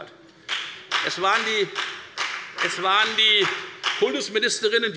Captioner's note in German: Beifall bei der FDP